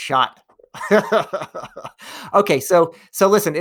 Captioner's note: laughs